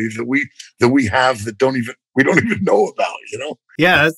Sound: laughter

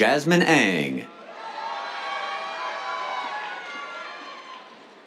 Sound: cheers

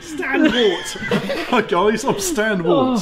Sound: both laugh

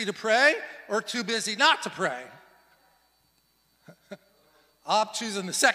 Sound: laughs

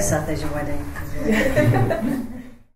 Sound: laughs

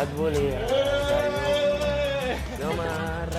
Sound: guys shout; guy sings

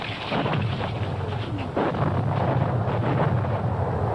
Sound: explosions booming

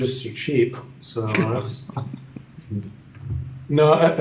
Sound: laughter

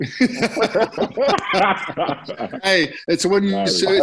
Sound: laughter

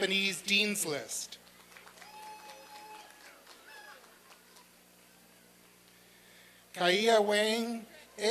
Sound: applause and cheering

